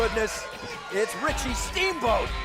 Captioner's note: crowd chatter